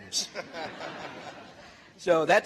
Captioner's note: laughter